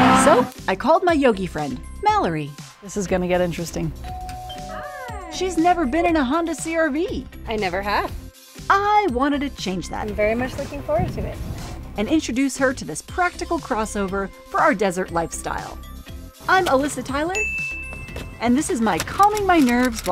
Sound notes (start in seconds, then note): 4.0 door bell noise